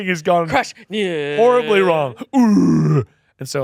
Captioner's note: groans